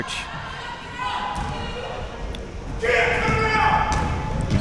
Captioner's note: crowd yelling